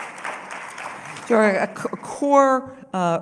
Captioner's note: applause